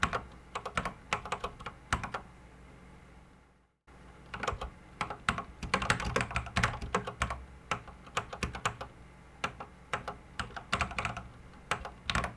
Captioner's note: typing on a Commodore 64 keyboard